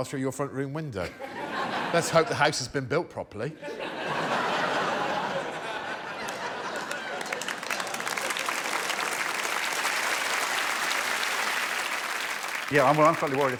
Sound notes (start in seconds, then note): 3.6 laughter; 7.8 applause